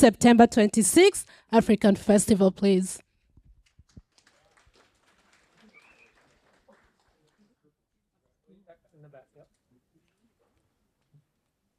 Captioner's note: applause